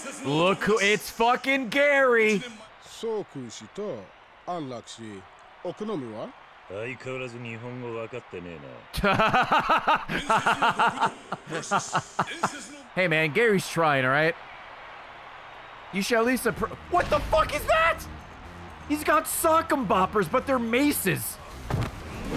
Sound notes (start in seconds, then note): 8.9 laughs